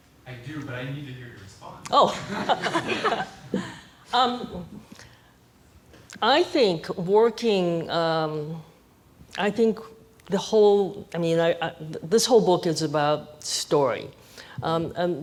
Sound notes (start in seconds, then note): 2.1 audience laughing